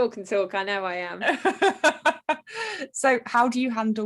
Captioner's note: continues laughing